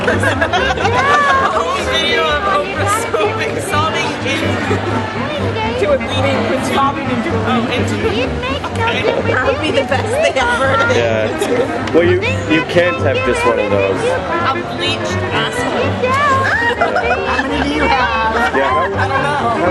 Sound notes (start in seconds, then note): 4.8 laughs; 7.2 laughs; 16.1 high pitched laughter